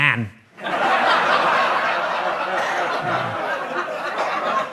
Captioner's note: audience laughs